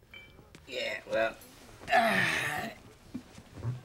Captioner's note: sighs